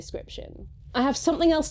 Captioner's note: at some point in this next section, you notice an ominous rumbling